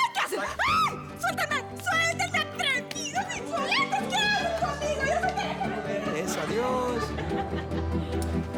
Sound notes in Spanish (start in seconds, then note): 0.6 Gritos; 4.0 Se va gritando